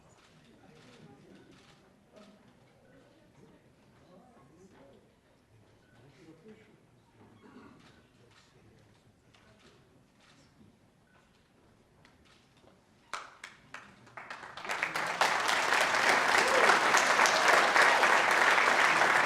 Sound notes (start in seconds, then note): 14.8 applause